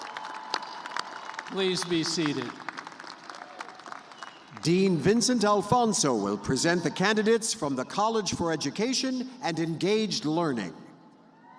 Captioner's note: cheers and applause